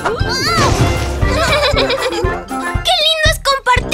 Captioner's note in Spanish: Risas